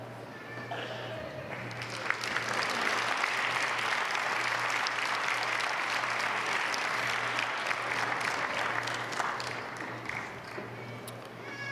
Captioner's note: applause